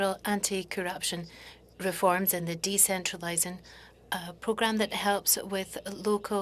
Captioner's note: speaking French